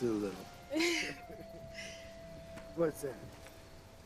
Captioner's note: both laughing